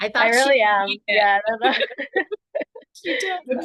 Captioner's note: laughter